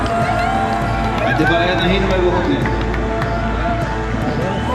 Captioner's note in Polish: Aplauz